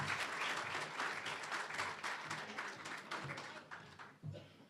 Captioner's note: applause, cheering; applause